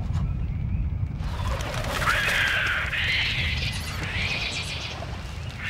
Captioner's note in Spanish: gritos de aves